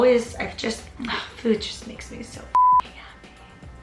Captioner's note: beep